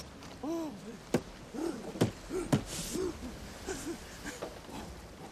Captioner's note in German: Grunzen, Lachen